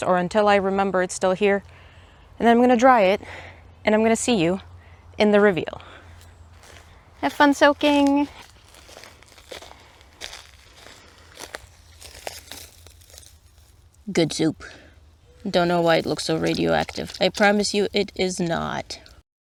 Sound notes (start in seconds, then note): 8.7 fir cones crunching; 15.4 water splashes